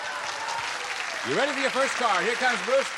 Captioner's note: applause